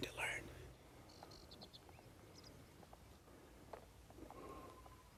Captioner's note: birds chirping